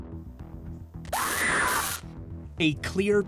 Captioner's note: recorded scream; electricity crackles